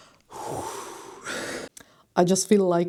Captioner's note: breath